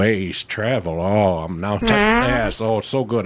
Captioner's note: farting